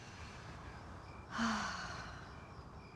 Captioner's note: sighs